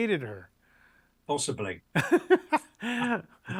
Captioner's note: laughs